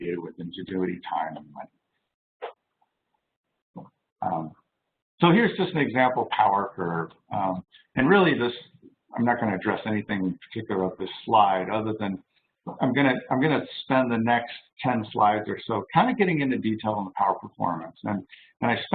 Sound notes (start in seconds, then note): none